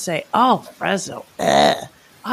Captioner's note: gag sound